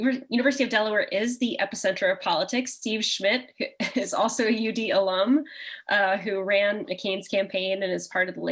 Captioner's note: chuckle